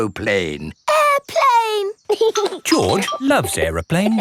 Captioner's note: giggling